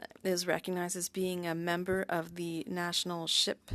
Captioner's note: speaking french